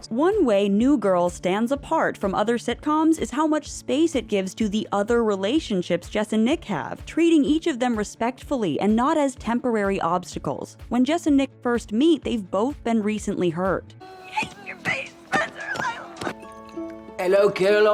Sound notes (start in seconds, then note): 14.0 yelling; 16.5 slurring